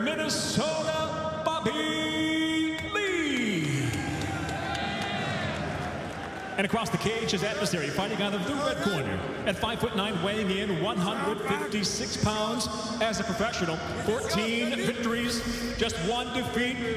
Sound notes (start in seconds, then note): 7.5 cheers and applause